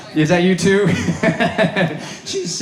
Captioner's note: laughing